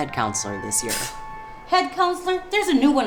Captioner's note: scoffs